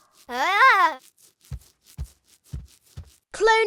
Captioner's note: Malice cries out